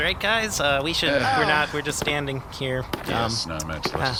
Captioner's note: Dar and Vulm make disappointed noises; unenthusiastic